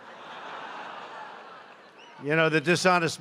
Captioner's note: applause